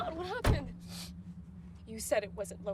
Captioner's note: Tyler sniffs